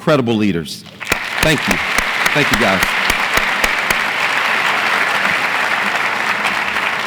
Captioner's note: audience applauds